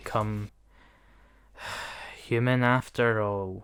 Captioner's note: sigh